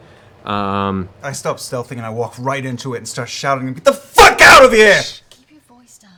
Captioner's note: shouting